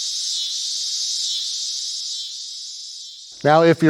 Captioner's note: cicadas hissing